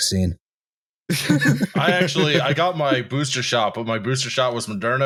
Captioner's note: laughter